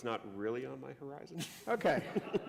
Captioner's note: laughter